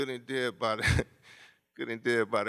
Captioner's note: laughs